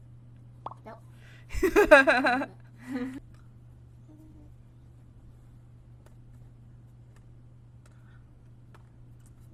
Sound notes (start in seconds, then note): 1.5 laughs